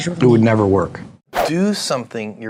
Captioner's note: whoosh